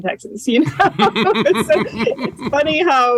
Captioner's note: laughter